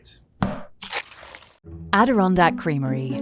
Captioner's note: tub thudding